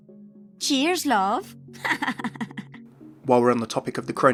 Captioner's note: laughs